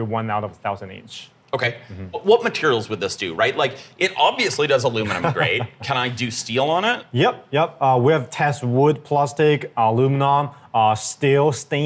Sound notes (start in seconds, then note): 5.0 laughing